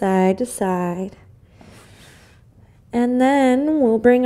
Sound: inhales

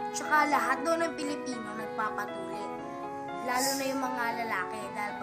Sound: none

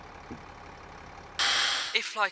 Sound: TV screen fuzzes

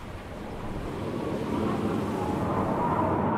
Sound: sound of wind

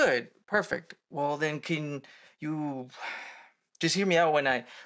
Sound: deep sigh

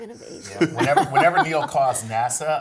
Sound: laugh

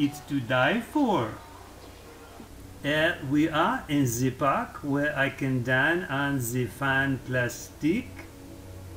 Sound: French accent

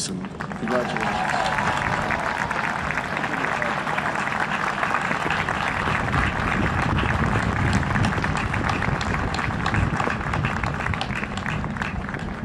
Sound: huge Applause and cheering

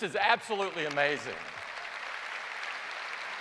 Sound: applause

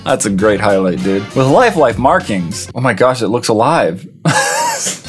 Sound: laughs

